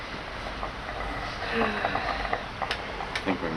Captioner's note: sighs